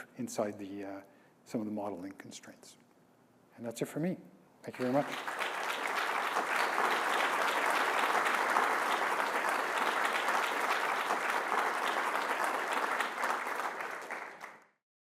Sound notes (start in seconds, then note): 5.6 audience clapping